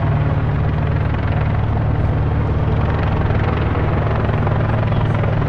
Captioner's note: helicopter whirs